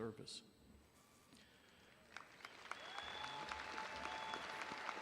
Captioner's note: audience applauding